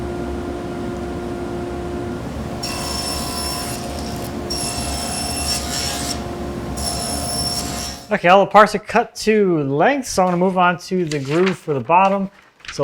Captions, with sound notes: (tool whirring) (tool squealing) (tool squealing) (tool squealing) Okay, all the parts are cut to length so I'm gonna move on to the groove for the bottom.